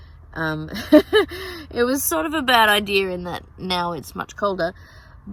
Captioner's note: scoffs